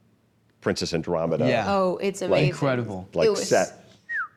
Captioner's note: whistles